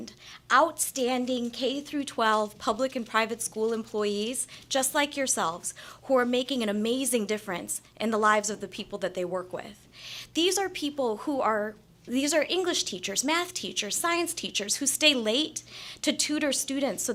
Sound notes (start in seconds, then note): none